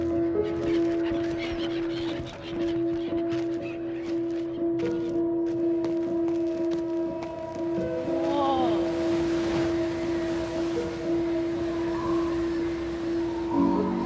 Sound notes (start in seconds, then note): 0.0 seagulls squawk; 7.6 wind whistles